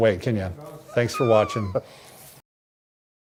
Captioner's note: laughs